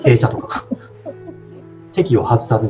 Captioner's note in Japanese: 笑い